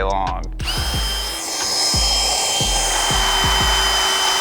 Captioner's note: power tool whizzing